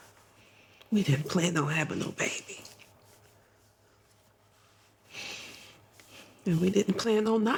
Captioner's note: none